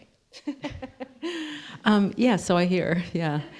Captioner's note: laughter